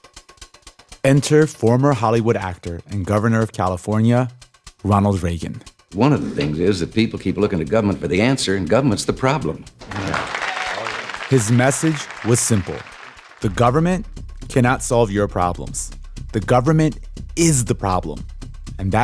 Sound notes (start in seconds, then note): 6.0 soundbite of archived recording